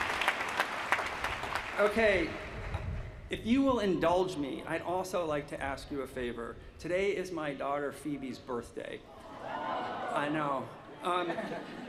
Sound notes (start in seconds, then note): 1.9 applause